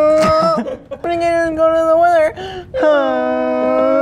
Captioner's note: in a weird voice